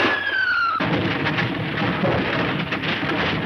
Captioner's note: car engine revving; car crashes